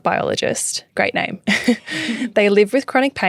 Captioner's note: laughing